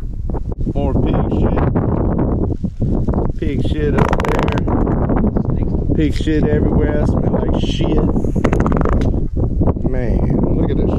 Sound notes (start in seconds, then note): 3.8 fart sound; 8.4 fart sounds